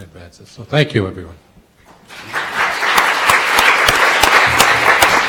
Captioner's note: audience applauding